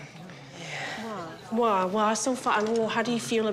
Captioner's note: speaks samoan